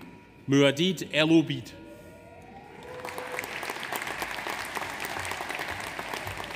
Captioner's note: audience applauds